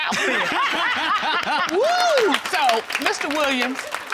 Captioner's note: all laughing